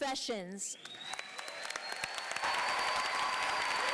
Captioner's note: applause